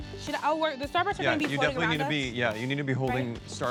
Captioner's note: stammers